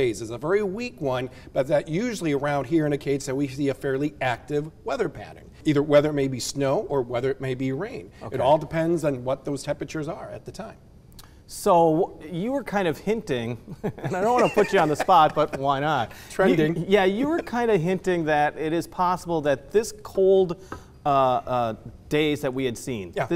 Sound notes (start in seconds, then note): 13.7 laughs